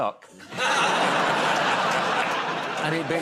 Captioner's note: laughter